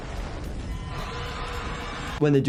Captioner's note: robot blasting; metal shrieking; robot roaring